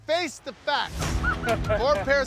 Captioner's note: laughter